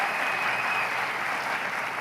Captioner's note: applause